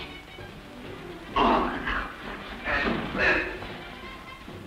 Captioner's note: sounds of struggle